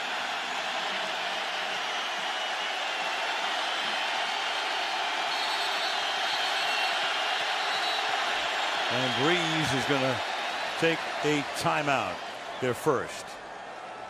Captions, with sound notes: [whistling] And Brees is going to take a timeout, their first.